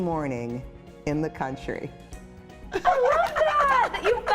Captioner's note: laughing